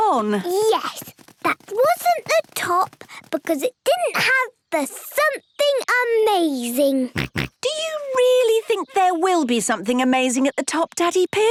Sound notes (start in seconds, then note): 7.1 snorts